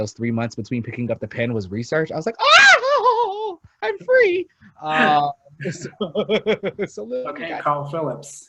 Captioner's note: screams; laughs